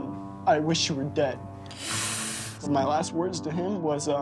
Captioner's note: wincing